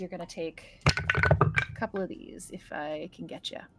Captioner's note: dice rolling